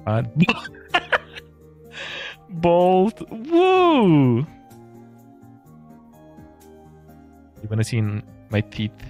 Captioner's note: laughter